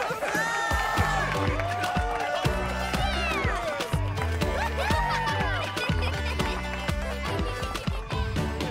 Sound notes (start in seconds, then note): 4.6 laughter